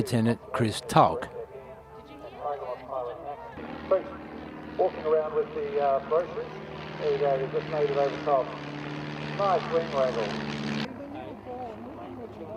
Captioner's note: aircraft sounds